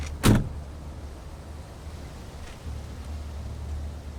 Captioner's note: door thuds